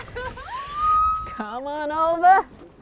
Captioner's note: screams